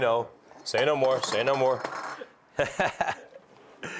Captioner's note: laughing